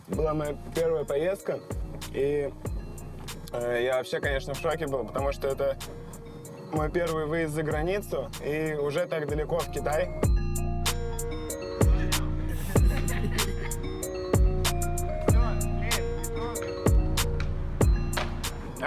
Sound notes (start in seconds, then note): 12.5 laughing